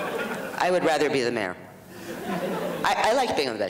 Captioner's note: audience laughs